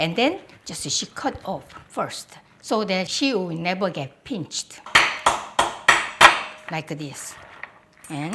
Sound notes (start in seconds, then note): 5.0 crab cracking